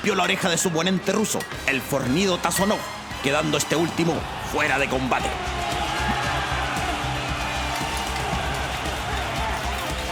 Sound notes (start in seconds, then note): 6.6 cheers